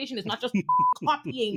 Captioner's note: beep